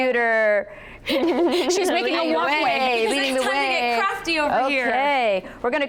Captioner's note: chuckling